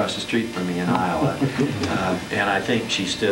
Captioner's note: laughter